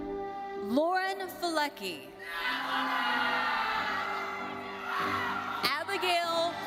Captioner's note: audience cheering